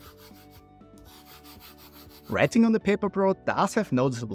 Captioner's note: pen scratching